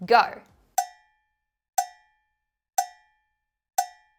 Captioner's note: clock ticking